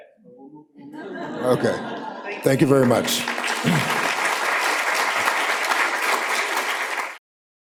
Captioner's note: laughter; applause